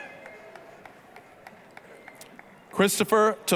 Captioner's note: applause